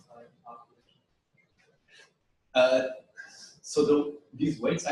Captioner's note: pause